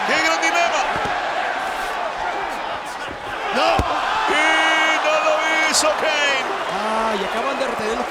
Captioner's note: applause